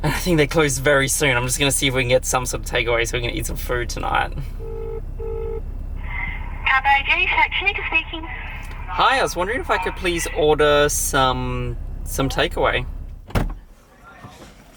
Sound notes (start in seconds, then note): 4.6 phone rings